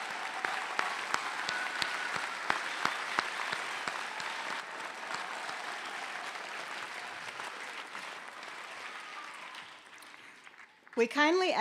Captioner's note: applause